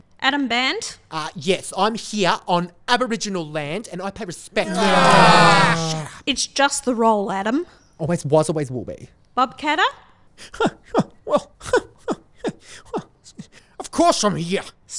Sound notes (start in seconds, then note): 4.6 all groaning; 10.5 laughing